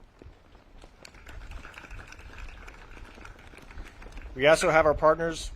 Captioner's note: audience claps